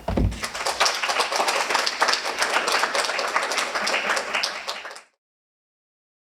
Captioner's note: applause